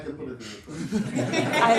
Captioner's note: laughter